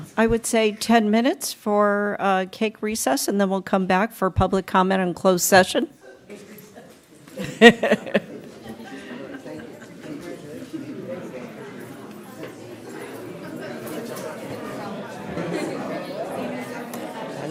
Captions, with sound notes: >> YEAH, I WOULD SAY 10 MINUTES FOR CAKE RECESS AND THEN WE'LL COME BACK FOR PUBLIC COMMENT AND CLOSED SESSION. [LAUGHTER]